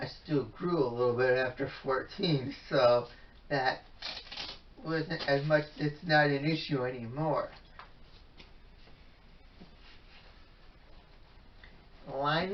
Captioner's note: ripping of Velcro